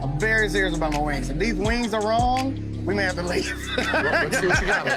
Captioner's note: laughs